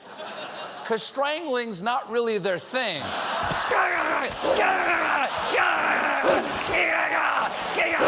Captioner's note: laughter